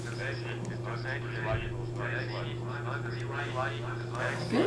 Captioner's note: calculator voices